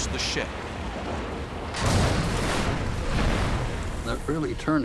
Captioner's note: explosion